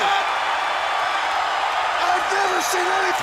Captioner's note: crowd cheering